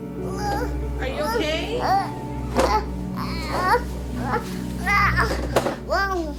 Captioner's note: daughter grunting